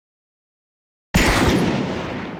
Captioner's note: bang!